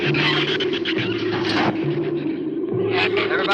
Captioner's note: drums clunk